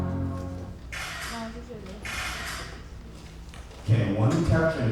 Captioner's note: camera shutter